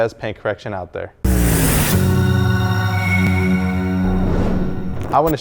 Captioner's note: logo whooshing